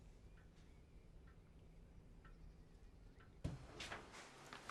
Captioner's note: clock ticking